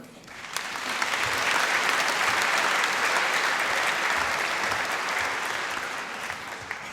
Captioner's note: applause